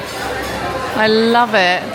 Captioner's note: diners chattering in background